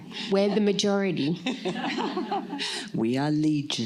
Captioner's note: laughter